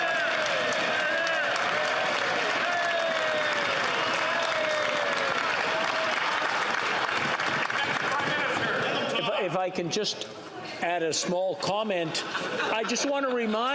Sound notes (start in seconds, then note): 1.9 cheering; 3.1 applause